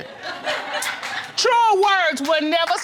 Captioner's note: audience cheering and clapping